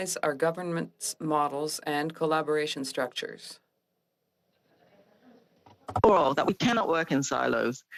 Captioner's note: speaking French